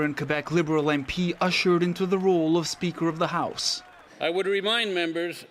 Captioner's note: applause